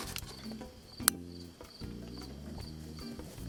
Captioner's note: click